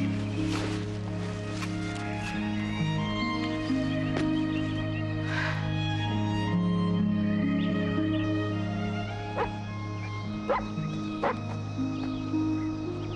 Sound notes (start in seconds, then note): 5.2 sighs; 10.4 dog barks